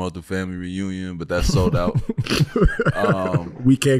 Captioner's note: laughing